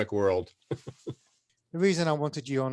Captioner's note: laughing